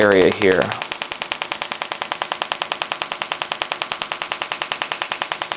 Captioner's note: machine tapping